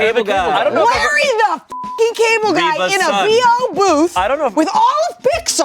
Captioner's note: beep